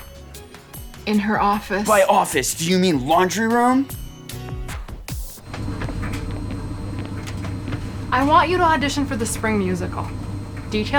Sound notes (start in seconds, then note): none